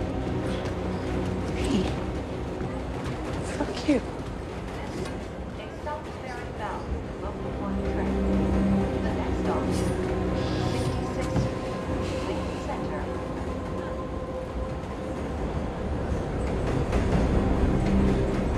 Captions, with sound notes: Hey. Fuck you. [announcer over PA] This is a South Ferry bound local one train. The next stop is 66th Street, Lincoln Center.